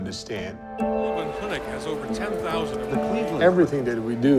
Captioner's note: ambient sound of news anchors